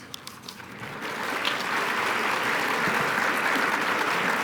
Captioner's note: applause